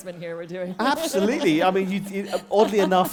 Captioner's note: laughter